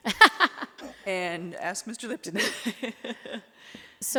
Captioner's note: laughs